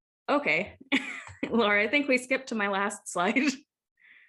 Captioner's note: laugh